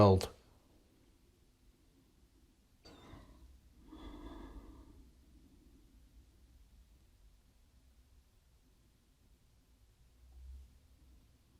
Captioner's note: silence